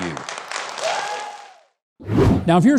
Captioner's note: crowd cheering